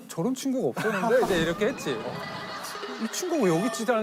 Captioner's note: severe sound effects